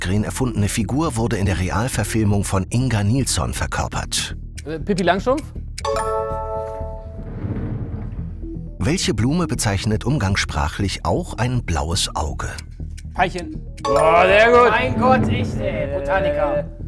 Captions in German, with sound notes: Äh, Pippi Langstrumpf? (Klingeln) Veilchen. (Klingeln) Boah, sehr gut. Mein Gott, echt, ey, Botaniker.